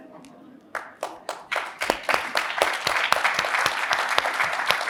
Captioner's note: audience sighs and applauds